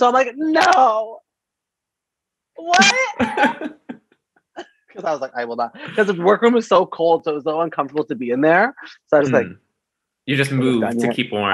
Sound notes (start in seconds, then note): 2.7 laughs